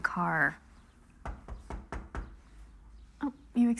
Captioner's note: knocking at door